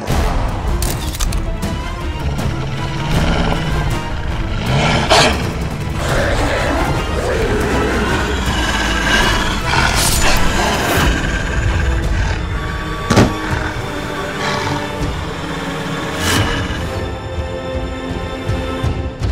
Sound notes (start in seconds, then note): 4.2 wolf growls; 17.5 pleasant music plays